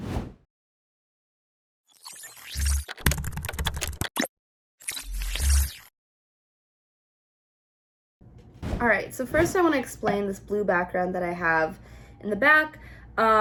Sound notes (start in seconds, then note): 0.0 air whooshing; 3.0 keyboard clicking